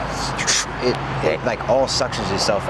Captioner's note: suction mimicking